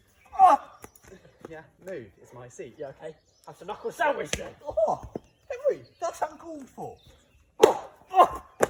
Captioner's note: fighting noises, shouting